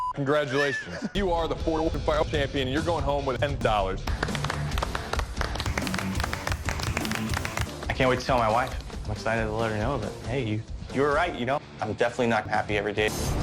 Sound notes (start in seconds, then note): 4.0 clapping accelerates in speed